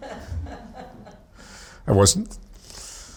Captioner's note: audience laughs